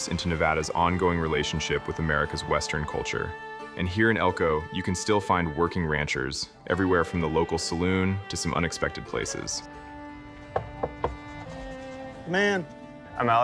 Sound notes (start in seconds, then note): 10.4 Knocking